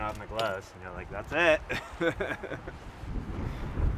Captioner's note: laughs